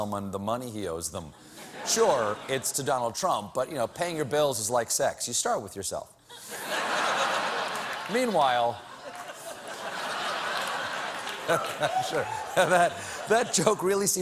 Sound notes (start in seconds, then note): 6.3 laughter